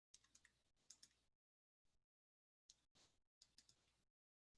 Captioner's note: clicking computer